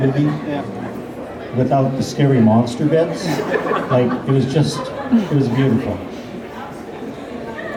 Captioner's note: laughter